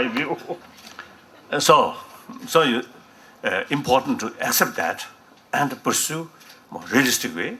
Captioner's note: more laughter